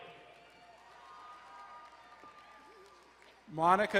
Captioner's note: crowd cheering and applauding